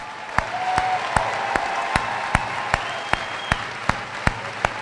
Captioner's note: applause; cheering